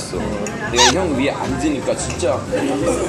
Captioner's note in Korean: 콜록 콜록